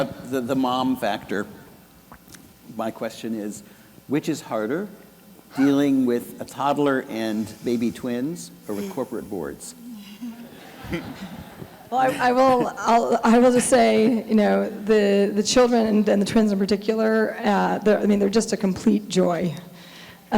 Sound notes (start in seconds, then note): 9.8 laughing